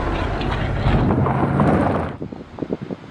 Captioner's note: sound of wheels on gravel